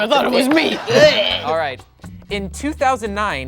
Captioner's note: dry heaving